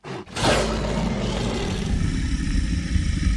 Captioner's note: growl